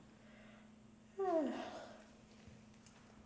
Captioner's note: yawns